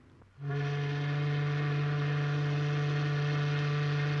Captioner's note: ship's horn